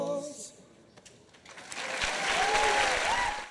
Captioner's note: applause and cheers